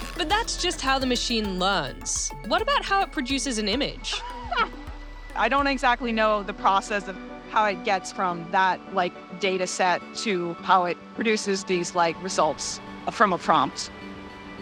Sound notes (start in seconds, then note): 4.0 laughs